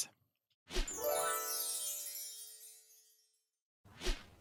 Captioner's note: gentle chiming